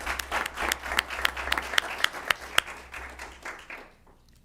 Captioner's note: applause